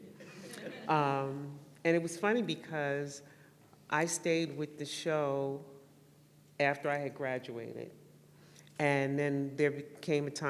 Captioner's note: laughter